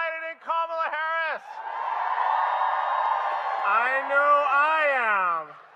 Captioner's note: applause